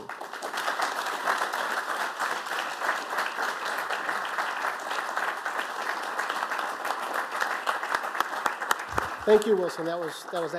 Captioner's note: applause